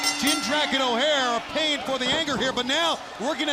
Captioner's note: bell ringing